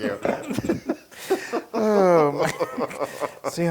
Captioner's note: laugh